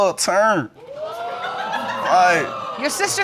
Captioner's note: audience exclaiming